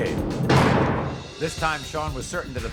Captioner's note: lock clicks